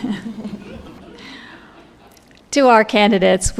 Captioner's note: laughter